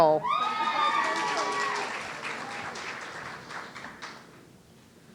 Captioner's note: audience cheering